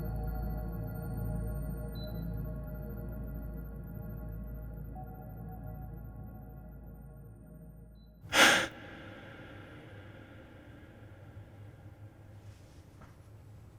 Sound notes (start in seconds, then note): 0.0 soft haunting music; 8.3 Matt gasps